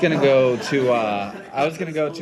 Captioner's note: laughter